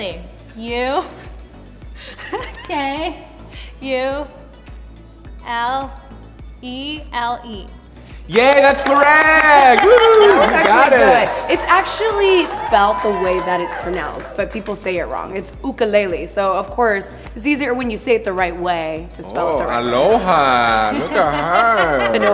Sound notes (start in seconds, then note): 2.0 laughs; 8.2 applause